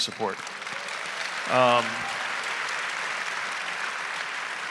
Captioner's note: audience applauding